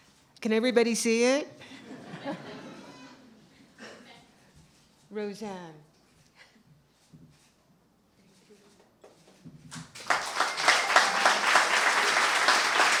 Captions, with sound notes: Can everybody see it? [laughter] Rosanne. [applause]